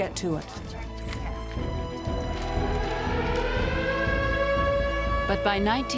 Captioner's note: siren